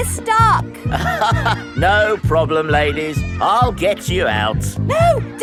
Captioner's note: chuckles